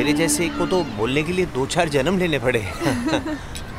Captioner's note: Both laughs